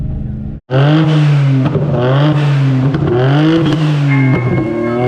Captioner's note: car engine revving